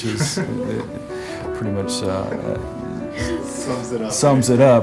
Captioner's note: chuckles